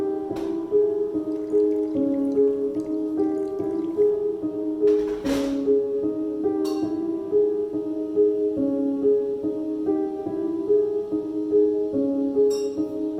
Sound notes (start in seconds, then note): 1.1 water splashes